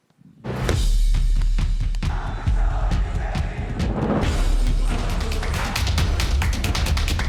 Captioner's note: upbeat music; crowd chanting